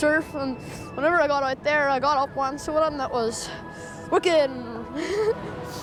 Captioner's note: giggles